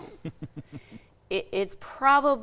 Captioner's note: laughing